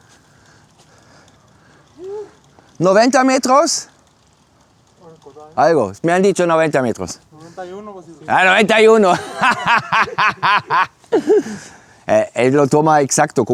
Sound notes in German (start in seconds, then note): 4.8 gelächter